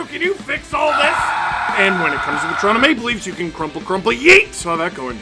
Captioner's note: screaming